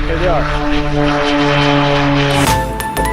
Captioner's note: airplane engine running